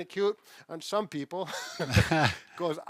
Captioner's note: laughs